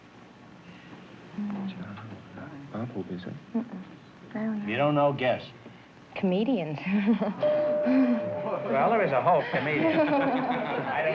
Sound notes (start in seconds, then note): 0.2 whispers; 7.4 bell dings